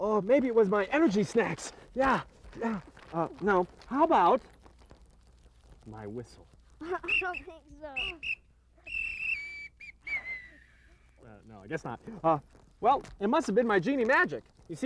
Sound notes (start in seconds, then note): 8.8 whistle blowing